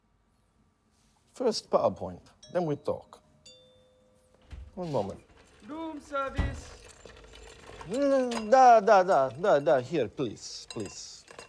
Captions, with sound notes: First, PowerPoint. Then we talk. (bell dings) - One moment. Room service! Da, da, da. Da, da. Here, please. Please.